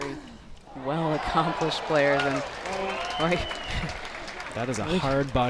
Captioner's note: laughs